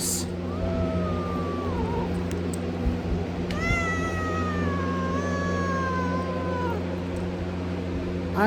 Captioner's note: Caprice growls and meows